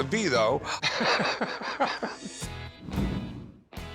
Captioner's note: laughs